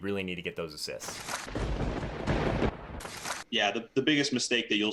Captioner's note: thunder cracks